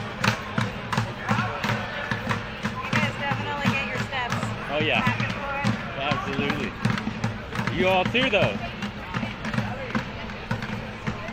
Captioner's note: cheers and applause